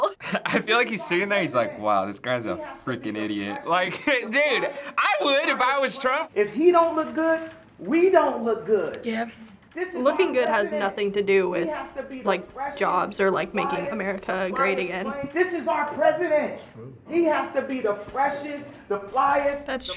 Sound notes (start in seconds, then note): 3.8 chuckles